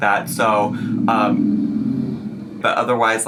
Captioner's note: car engines rumbling